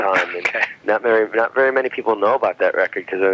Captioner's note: laughs